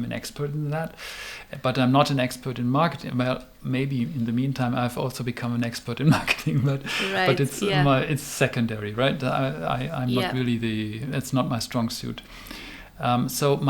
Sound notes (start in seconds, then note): 6.5 laughs